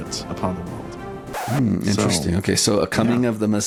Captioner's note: record scratch, music terminates